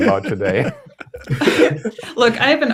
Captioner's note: laughter